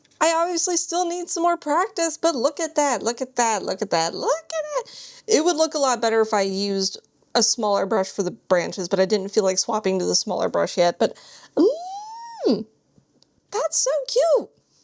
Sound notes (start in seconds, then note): 11.5 squeals